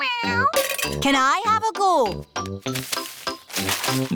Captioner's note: meows